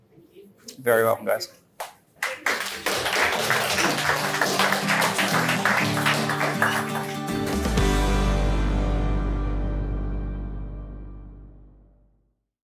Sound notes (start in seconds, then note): 2.2 attendees applaud; 3.6 upbeat guitar music